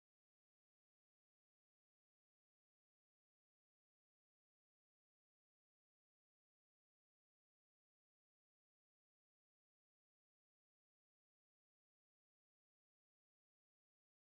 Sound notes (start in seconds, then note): none